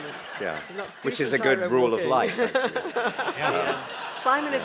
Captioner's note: laughter